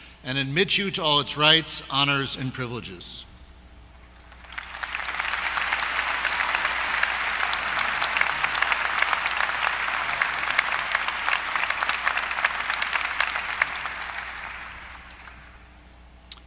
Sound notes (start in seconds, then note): 4.1 applause